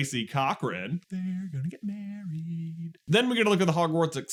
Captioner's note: sing-song